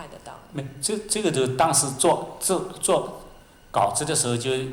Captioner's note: Mandarin